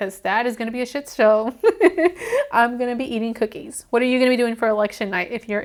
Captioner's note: laughs